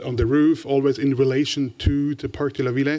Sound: french

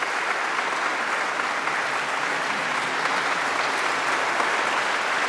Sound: audience applause continues

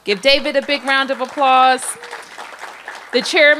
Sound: applause

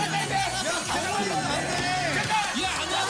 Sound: loses strength because of laughing

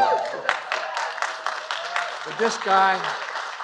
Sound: applause

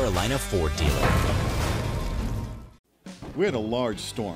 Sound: clanging

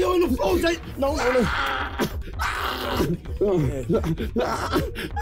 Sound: quiet screaming

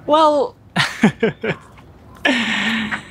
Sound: chuckles

